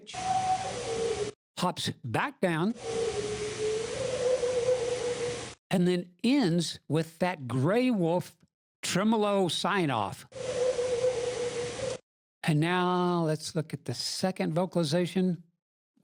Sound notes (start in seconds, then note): 0.1 pitch hops up in howl; 2.8 pitch hops down in howl plus tremolo; 10.3 howl plus tremolo